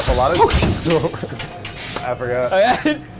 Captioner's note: shocked gasping